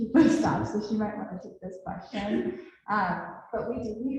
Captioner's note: laughs